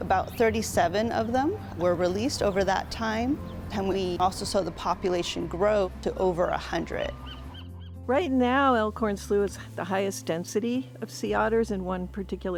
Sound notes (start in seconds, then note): 3.5 birds chirping